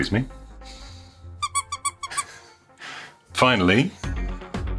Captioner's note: squeaking